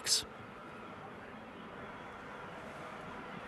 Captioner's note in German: Hintergrundrauschen